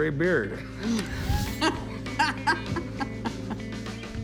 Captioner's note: laughs